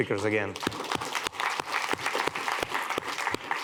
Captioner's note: applause